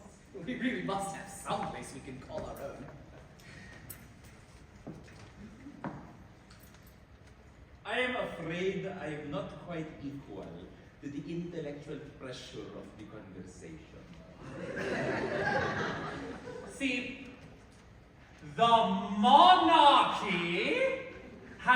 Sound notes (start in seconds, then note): 14.4 laughter